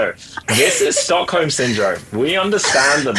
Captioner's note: laughs